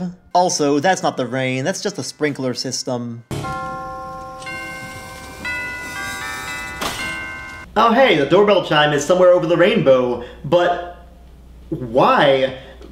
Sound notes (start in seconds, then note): 3.2 doorbell chime